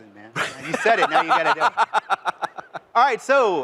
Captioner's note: laughter